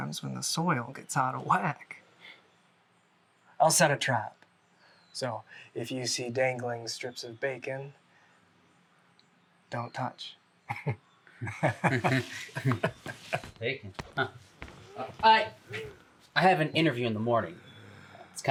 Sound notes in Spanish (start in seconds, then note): 11.4 risas; 11.4 ambos riendo